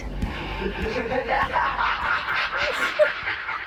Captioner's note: Dark Entity laughing; Emma crying